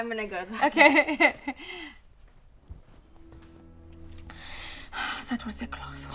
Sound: laughs uncomfortably

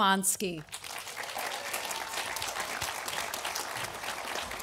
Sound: audience applauding

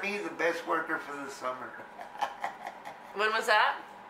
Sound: laughs

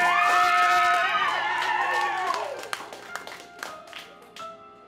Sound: audience cheering

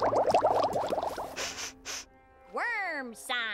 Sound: sniffing

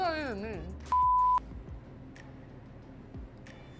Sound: beep

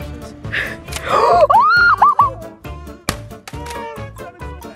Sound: screaming

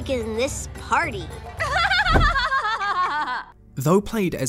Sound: laughs over everyone else

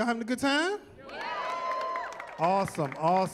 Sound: cheering

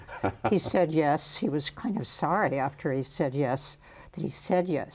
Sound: Jerry laughs

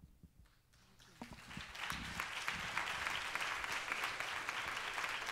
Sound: audience applauds

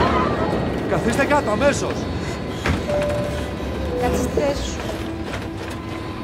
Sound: passengers screaming; lightning cracking; passengers and flight attendant speaking foreign language; airplane rumbling; dramatic music continues

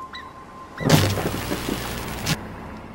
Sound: thunder Cracking Sounds; distorted Scene Change

